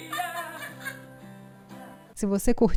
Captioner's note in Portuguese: risos